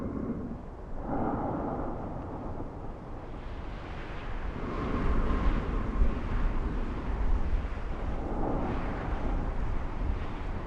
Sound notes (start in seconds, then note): 1.0 man breathing